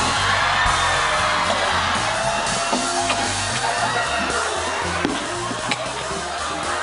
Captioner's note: cheering; coughing; laughter; gagging, coughing